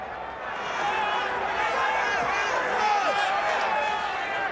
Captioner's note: crowd cheering